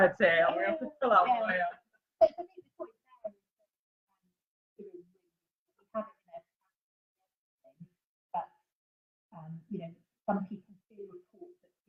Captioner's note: no or very little sound